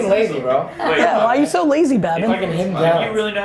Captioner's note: laughing